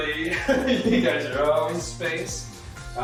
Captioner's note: laughs